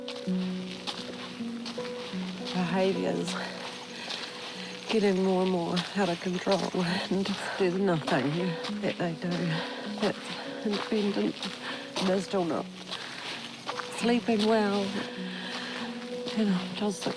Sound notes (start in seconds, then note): 0.7 crunching footsteps